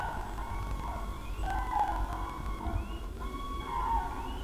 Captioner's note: bird cries